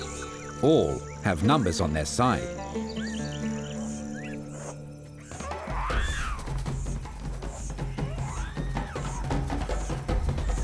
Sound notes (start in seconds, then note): 5.1 monkey call; 7.1 dynamic music